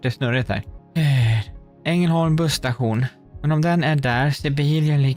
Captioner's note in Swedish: drar efter andan